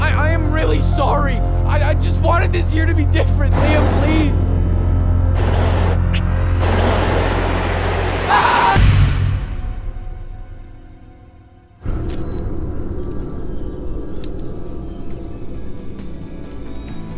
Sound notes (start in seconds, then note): 11.8 fire crackles